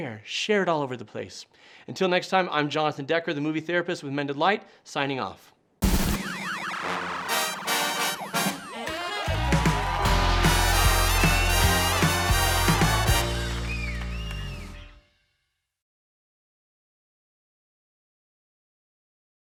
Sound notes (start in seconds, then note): 5.9 upbeat brassy music; 6.2 crowd cheering